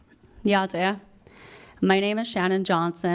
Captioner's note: speaking foreign language